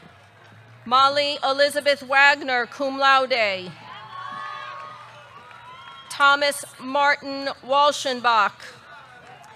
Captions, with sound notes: Molly Elizabeth Wagner, cum laude. (audience cheering) (audience clapping) Thomas Martin Walchenbach.